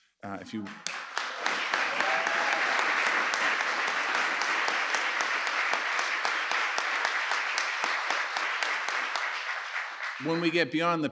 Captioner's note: applause